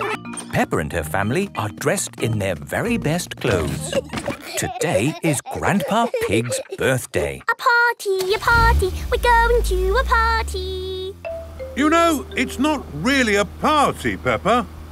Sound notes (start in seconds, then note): 3.4 giggling; 7.3 sing song voice